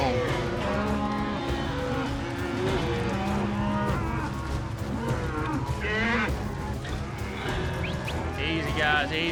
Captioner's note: cattle moo